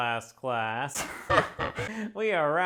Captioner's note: alien Chuckle